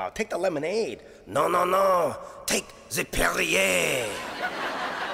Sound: thick French accent

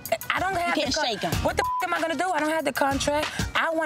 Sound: beep

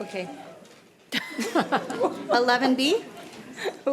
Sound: laughs

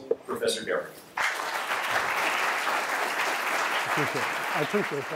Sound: applause

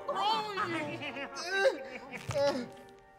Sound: Baba giggling; groaning, whimpering

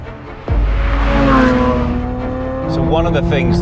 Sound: engine roaring

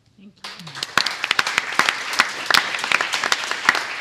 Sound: applause

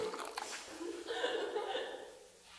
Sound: jen and suzie laugh

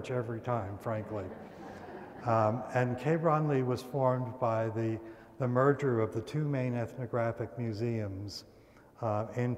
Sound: laughter

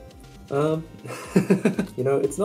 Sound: chuckles

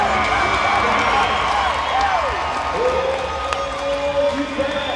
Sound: crowd cheering

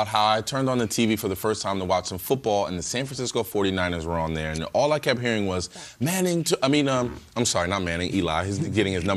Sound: laughter

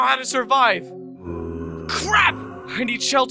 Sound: zombie noise

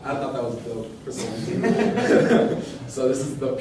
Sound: laughter

